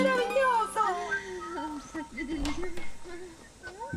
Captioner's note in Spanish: habla en francés